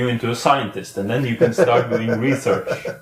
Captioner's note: laughs